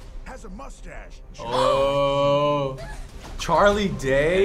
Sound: gasps

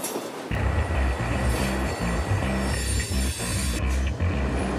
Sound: train track squealing

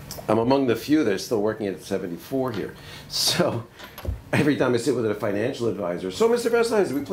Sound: laughs

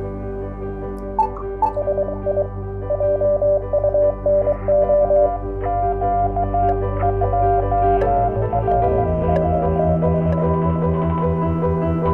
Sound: beeping sounds

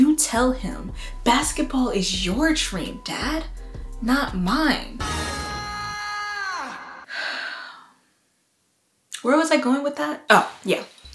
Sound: Troy Bolton scream

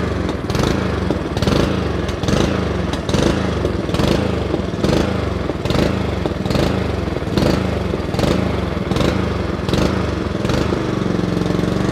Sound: engine running sounds

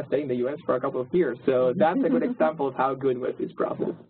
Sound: laugh

